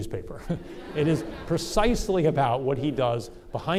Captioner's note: audience laughter